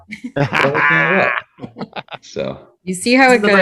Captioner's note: all laughing